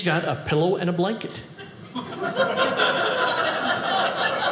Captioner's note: audience laughing